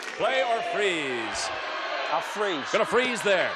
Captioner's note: audience yells